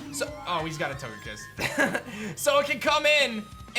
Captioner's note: chuckles